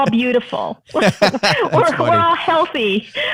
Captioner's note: laughter